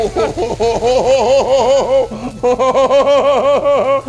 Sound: laughs

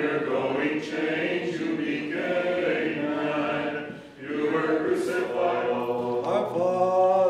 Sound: chanting

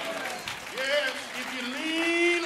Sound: applause

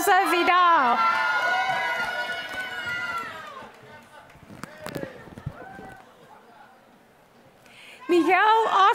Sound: applause

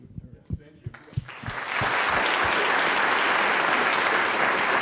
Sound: audience applauds

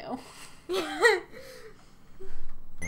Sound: laughs

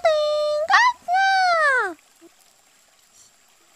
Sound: cheers in excitement

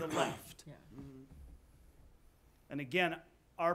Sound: various agreeing

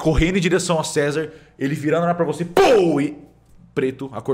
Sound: pow

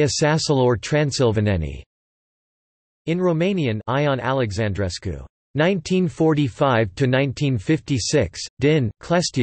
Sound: in Romanian; in Romanian

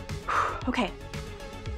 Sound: exhales

